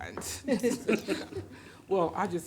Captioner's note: everyone laughs